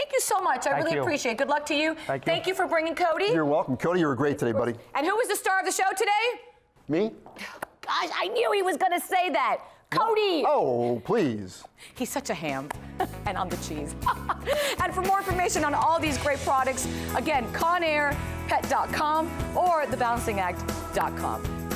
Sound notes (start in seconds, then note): 15.6 laughter